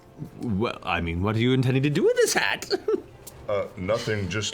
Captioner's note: titters